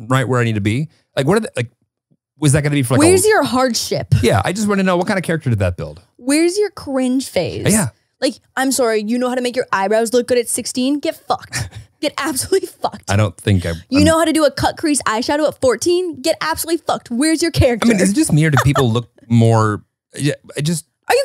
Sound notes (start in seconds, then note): 17.8 chuckles